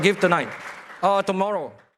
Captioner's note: applause